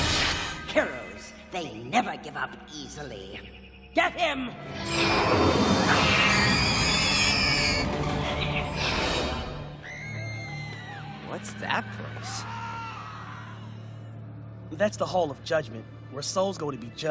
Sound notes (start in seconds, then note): 4.8 shrieking; 9.7 people screaming